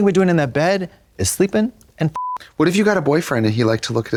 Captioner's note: beep